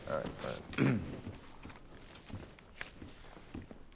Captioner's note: clearing throat